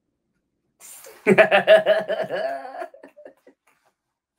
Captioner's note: both laugh